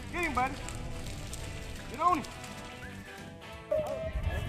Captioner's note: dos barking